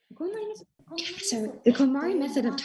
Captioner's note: Marie speaking foreign language